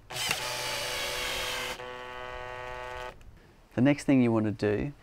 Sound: electric drilling noise

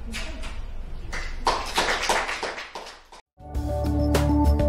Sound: applause; upbeat music

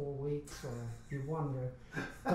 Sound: laughs

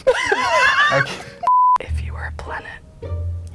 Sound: laughing; beeps

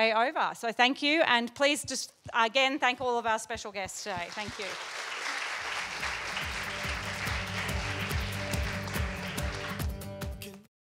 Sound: applause

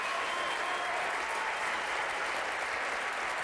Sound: applause

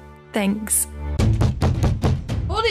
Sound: bang bang bang

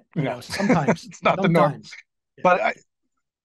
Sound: laughing

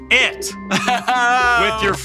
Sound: laughs

